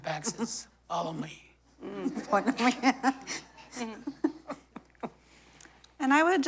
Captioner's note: laughter